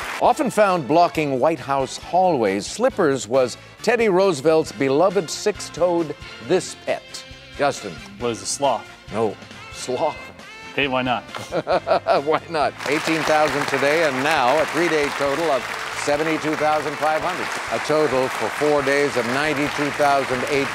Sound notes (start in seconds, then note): 11.3 Alex laughing